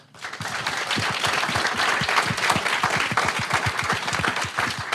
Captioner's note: audience clapping